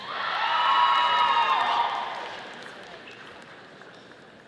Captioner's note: audience applauding